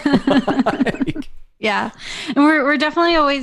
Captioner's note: laughter